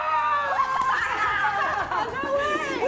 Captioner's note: laughing